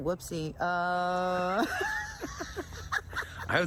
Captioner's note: laughter